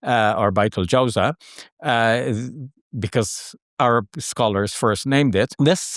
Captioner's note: speaks Arabic